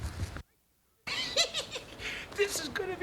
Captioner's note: giggles